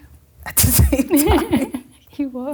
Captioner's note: laughing